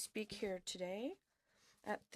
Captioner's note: speaking French